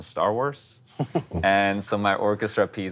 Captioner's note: laughing